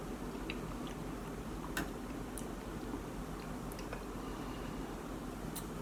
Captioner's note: soft chewing